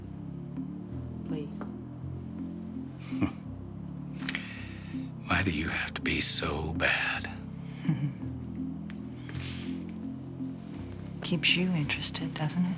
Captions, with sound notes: Please. (Nash chuckling) - Why do you have to be so bad? - Keeps you interested, doesn't it?